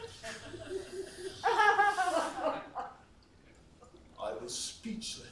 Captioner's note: laughs